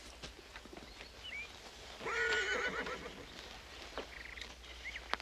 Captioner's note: horse whinnies